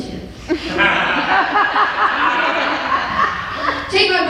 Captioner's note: laughter